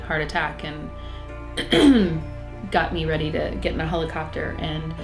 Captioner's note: clears throat